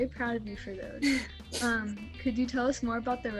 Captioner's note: laughs